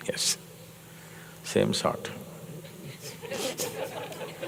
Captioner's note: laughter